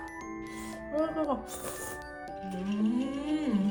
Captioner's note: slurp